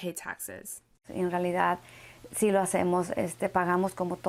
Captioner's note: speaking Spanish